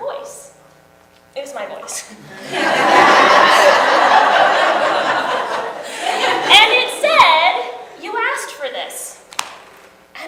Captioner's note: audience laughs